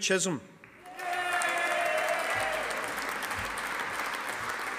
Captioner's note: audience applauding